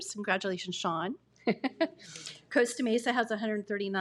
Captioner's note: laughs